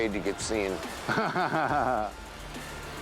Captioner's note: laughs